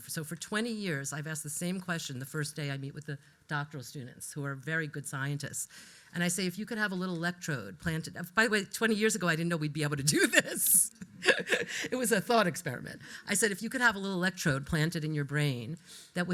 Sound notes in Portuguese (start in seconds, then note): 10.1 risos